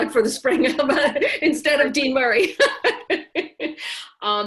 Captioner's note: laughs